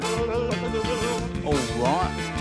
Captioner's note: blubbers